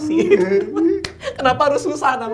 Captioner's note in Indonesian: tertawa